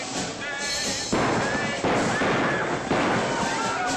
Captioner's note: gunshots; women screaming